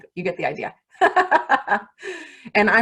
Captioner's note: laughs